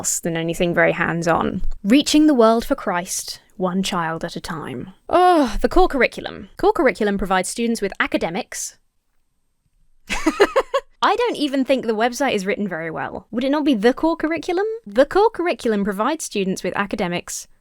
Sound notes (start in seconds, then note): 5.1 sighs; 10.0 laughs